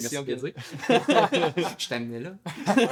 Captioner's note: laughs